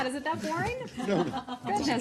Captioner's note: laughter